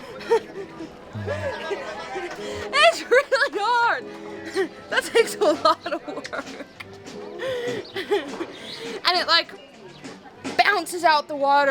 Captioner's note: laughter